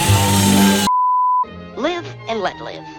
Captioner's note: bars and tone